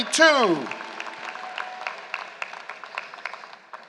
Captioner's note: applause